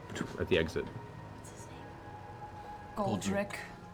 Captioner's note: whispers